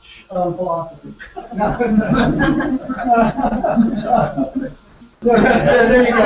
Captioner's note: laugh